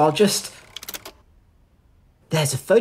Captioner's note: projector clicks, stops